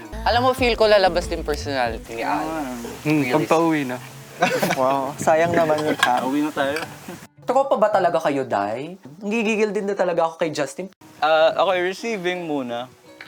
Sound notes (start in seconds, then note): 4.4 laughter; 7.3 bong